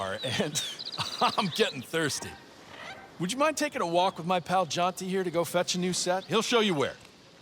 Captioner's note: laughter